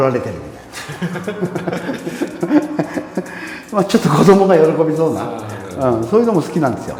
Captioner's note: laughing